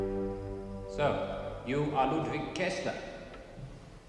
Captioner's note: echoing voice